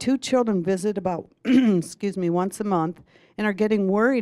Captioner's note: clears throat